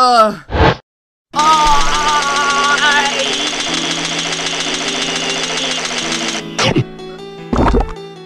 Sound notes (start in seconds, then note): 6.6 chomp; 7.4 gulp